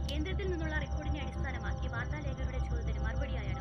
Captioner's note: TV news